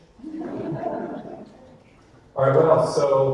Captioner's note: audience laughter